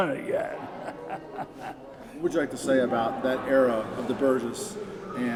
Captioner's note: chuckle